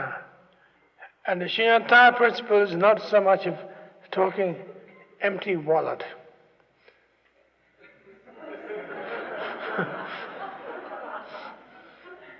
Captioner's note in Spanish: Risas